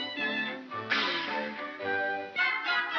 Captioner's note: Barnaby hisses; whimsical music